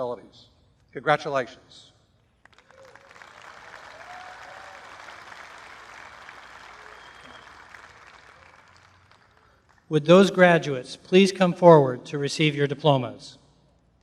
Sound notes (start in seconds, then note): 2.4 applause